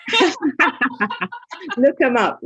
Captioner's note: laughter